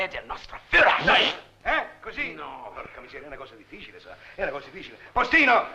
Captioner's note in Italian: pernacchia